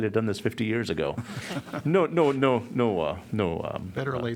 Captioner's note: laughter